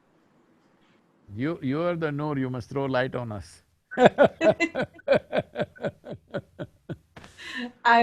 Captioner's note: laughter